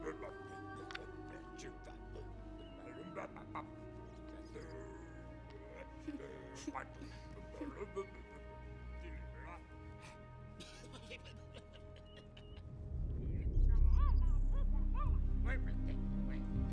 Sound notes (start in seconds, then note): 5.8 giggling